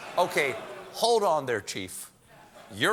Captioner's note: audience reacts